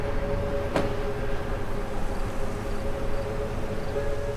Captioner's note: eerie music; traffic hums; car door slams